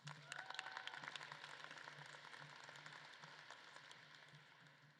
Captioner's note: audience claps and cheers